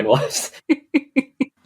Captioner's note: laughs